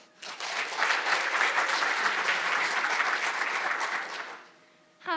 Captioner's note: audience applauding